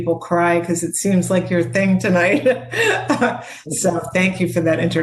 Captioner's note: laughs